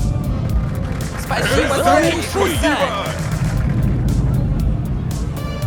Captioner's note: noisy celebration